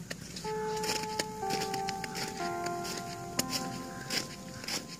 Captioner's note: Bell Ringing; 敲钟铃声